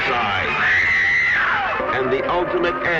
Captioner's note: screaming